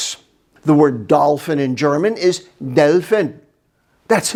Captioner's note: speaks in German